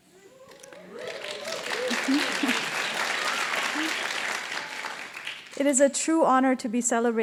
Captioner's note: applause